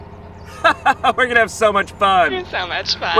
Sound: laughs

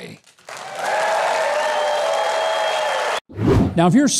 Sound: audience cheers and applauds

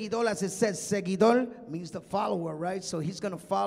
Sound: speaking in Spanish

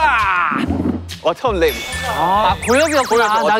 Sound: ding dong

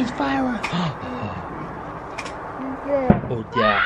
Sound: gasps

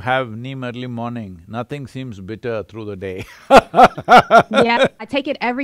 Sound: laughs

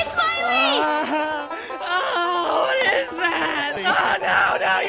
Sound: whimpers

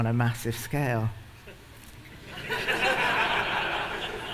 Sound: laughter

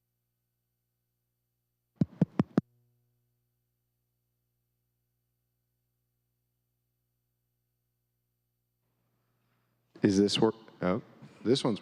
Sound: silence

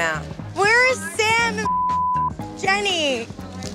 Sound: beep

